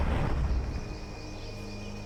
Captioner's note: ethereal woosh